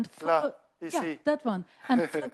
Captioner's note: laughs